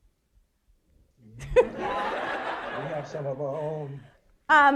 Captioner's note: all laughing